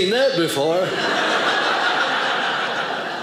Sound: audience laughing

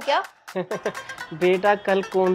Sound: laughing

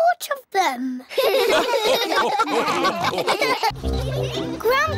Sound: all laugh

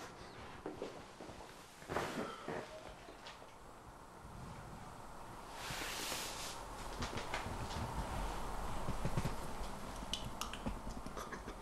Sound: bathroom door shuts

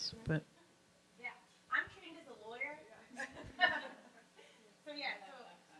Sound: laughs

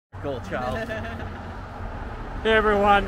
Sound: laughing

